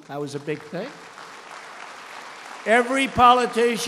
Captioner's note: applause